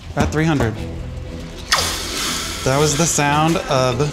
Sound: pan sizzles

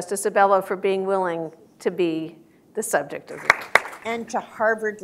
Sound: applause

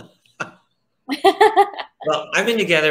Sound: laugh

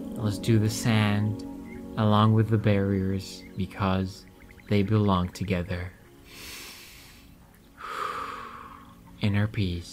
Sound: exhale; inhale

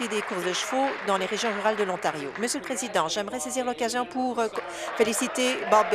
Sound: applause

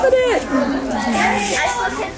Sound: family chatters excitedly

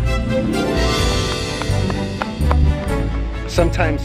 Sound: symphonic music begins; footsteps

